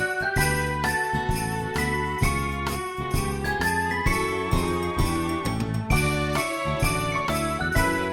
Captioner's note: none